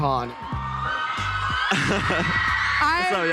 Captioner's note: crowd cheering; chuckles